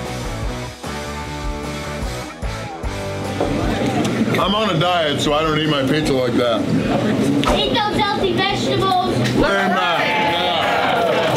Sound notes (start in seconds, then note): 6.5 crowd